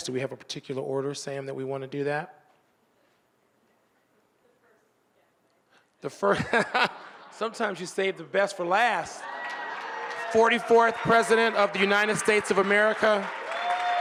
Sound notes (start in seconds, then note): 6.1 moderator laughing